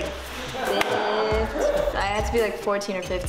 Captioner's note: people laughing